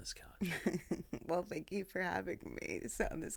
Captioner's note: laughing